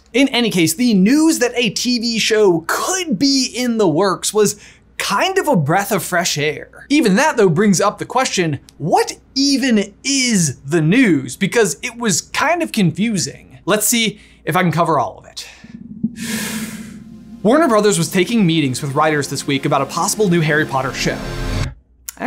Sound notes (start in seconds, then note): 16.1 inhales; 16.7 suspenseful music